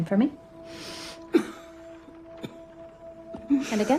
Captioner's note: inhales and coughs